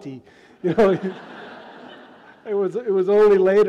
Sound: audience laughs

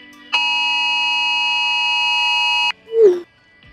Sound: emergency alert

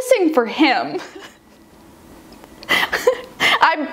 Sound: laughs

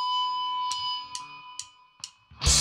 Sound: guitar feedback; drumsticks click

